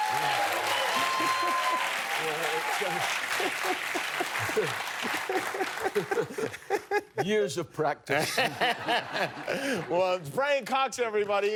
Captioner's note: cheers and applause